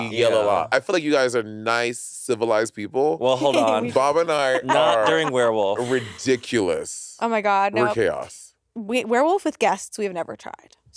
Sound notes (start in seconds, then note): 4.3 laughing